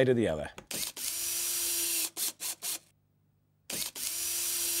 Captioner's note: drilling in screws